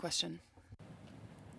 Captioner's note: speaking French